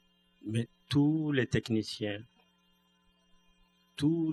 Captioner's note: speaking french